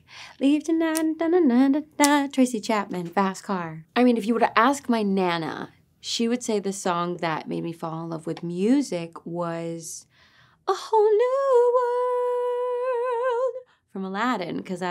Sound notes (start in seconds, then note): 1.0 Ariana humming